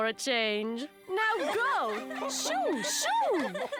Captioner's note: laughter in the room